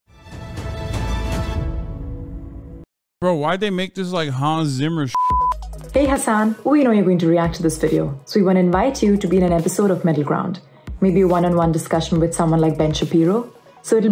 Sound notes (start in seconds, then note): 0.1 dramatic orchestra music; 5.0 beeps